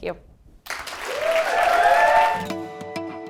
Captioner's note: applause